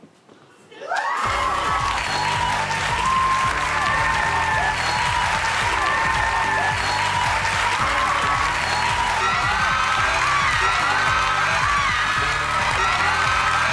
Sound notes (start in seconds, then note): 0.9 audience cheering and clapping